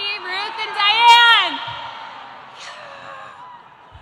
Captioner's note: students shouting